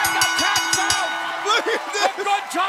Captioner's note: bell ringing